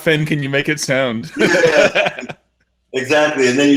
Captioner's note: laughing